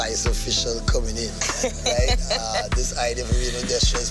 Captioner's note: laughing